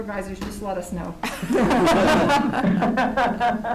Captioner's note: laughing